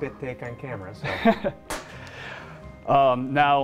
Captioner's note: laughs